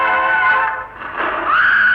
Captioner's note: rubble falls